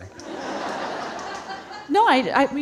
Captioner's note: audience laughing